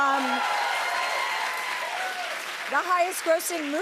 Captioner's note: cheers and applause